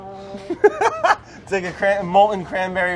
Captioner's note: laughs